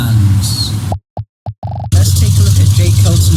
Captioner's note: popping noises as thumbnails appear